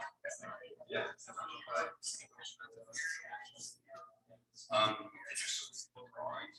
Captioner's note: people chattering indistinctly continues